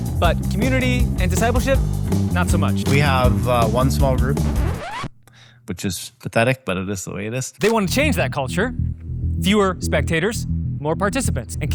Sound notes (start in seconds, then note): 4.9 record player screeches